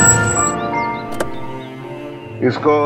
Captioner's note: Car halts; Car door opens